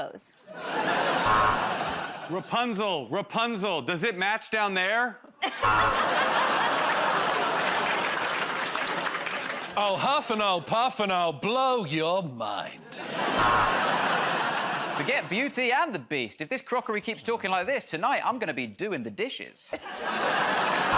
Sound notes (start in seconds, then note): 1.2 buzzer buzzes; 5.6 buzzer buzzes; 7.1 laughter; 13.3 buzzer buzzes